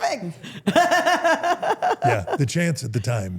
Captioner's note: Steph laughs